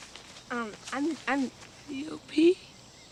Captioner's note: stammering